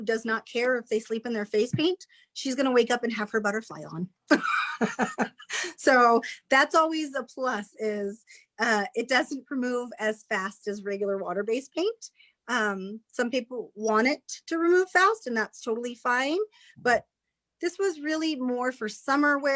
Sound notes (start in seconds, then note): 5.0 laughs